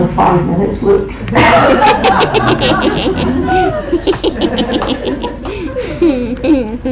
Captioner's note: audience laughter